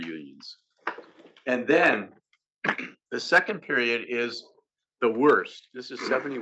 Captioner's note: cough